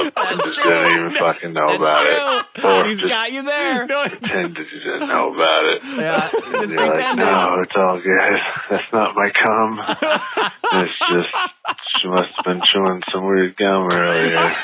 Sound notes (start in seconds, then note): 3.5 laughing